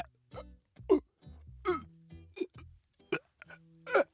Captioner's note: crying